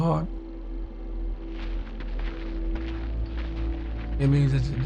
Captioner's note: footsteps shuffling